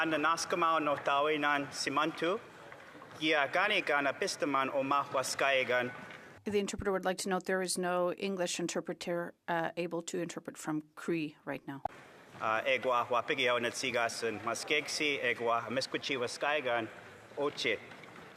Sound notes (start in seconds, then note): 4.0 speaking Alternate Language